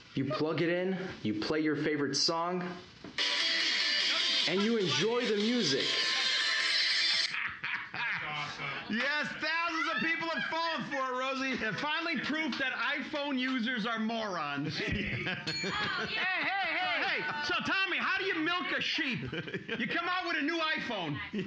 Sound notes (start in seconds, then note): 3.2 upbeat music; 7.1 loudly laughing; 15.5 bell softly chimes